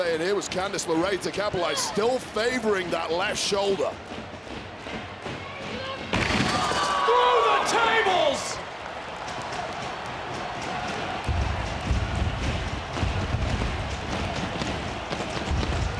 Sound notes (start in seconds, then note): 6.2 table crashing; 11.3 crowd rumbling